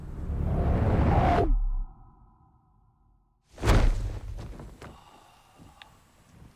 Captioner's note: intense swooshing